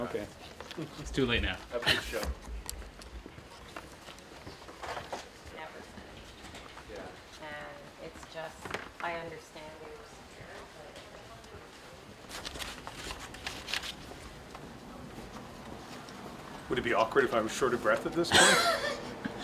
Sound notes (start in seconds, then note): 12.1 indistinct chatter